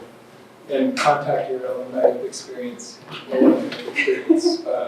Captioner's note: faintly speaking